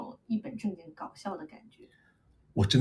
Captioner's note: switches to English